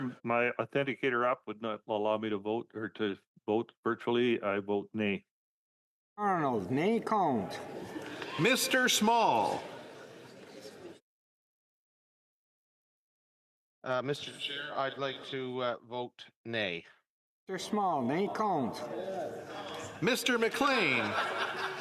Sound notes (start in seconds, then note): 4.9 calling of recorded vote